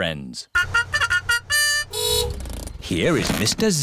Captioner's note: fanfare; horn honks